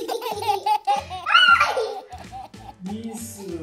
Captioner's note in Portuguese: Grito